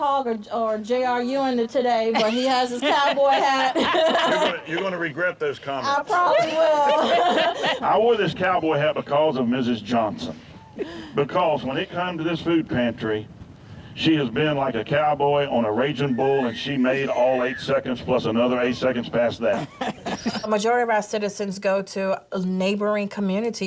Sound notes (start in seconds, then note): 2.1 laughs